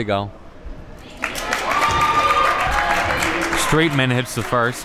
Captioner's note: crowd cheers